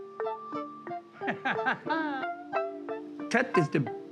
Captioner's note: laughs